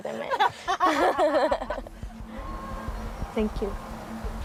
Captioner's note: both laughing